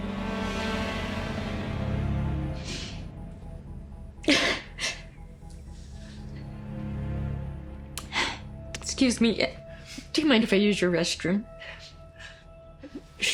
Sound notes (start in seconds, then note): 0.3 ominous music; 2.3 sniffling